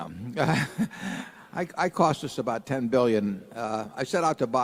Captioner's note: laughter